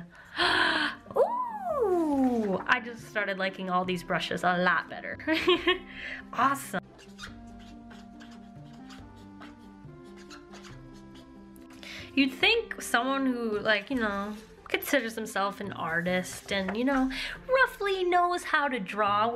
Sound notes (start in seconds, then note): 0.1 gasp; 5.2 laughter